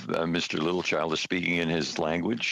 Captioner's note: speaking French